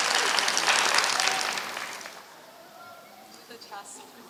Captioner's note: applause